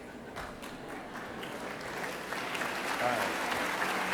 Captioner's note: applauding